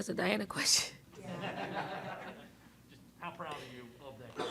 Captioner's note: laughing